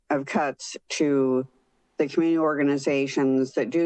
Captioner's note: none